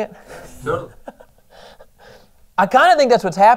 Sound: sarcastically

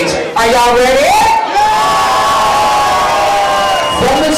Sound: crowd cheers

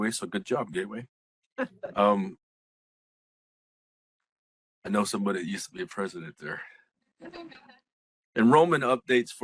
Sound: laughing

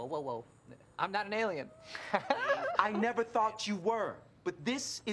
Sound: laughs

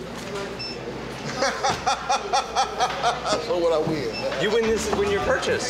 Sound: laughs

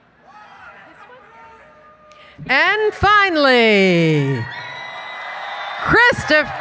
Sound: cheering

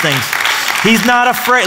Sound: applause

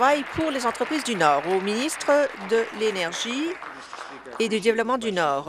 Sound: applause

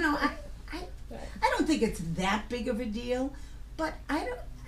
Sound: voiceover

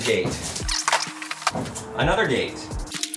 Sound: video squelches

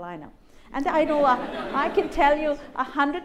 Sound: laughter

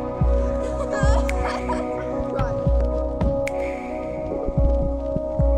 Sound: children laughing

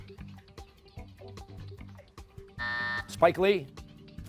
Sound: buzzer

